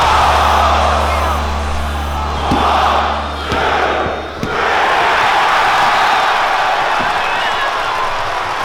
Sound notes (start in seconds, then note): 3.2 crowd